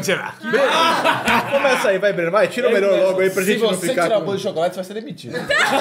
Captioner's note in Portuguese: risos; risos